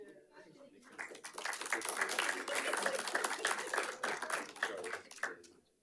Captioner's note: attendees clapping